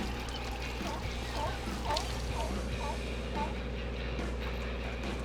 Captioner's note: seal barking